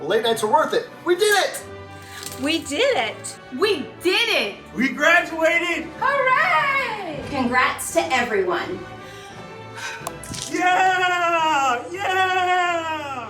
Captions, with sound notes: - Late nights are worth it. We did it! - We did it! - We did it! - We graduated! - Hooray! - Congrats to everyone. - (exhales) Yeah! Yeah!